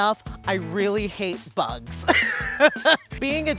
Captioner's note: laughs